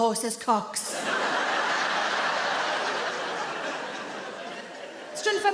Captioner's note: audience laughing